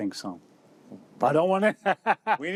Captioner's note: laughs